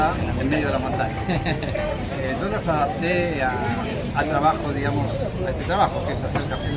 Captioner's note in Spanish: risas